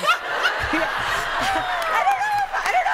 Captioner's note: laughter